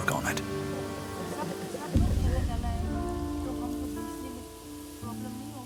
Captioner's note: speaks foreign language